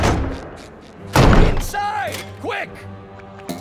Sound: loud thud

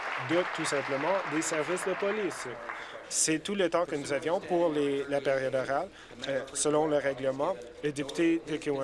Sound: some Applause

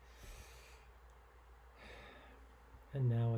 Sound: instructor inhaling

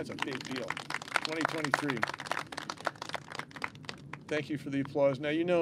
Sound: clapping

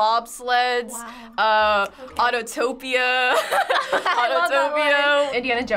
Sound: laughing

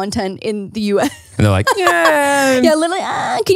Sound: laughs

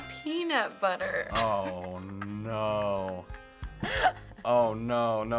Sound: laughing

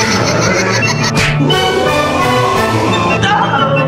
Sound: panics

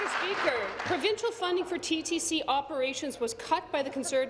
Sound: applause

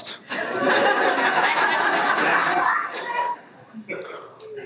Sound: everyone laughs

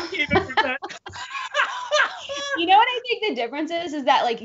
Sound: both laughing

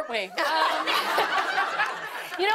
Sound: laughter

